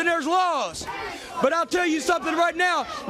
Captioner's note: crowd cheering